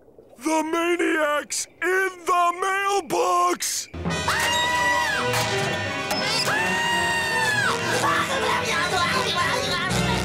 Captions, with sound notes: The maniac's in the mailbox. [screaming] [screaming]